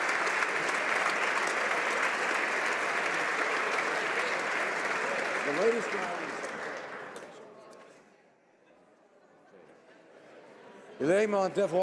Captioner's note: applause